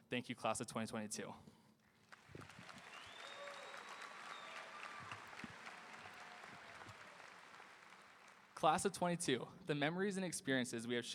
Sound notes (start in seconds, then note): 2.0 audience applauding; 2.3 audience cheering